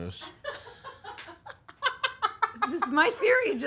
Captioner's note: laughing